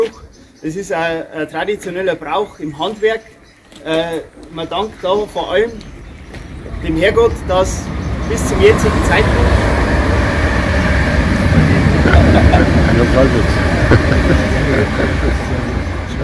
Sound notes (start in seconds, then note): 9.4 interruption due to loud noise from a passing train